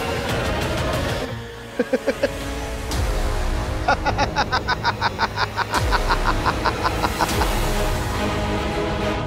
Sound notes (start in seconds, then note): 3.8 laughing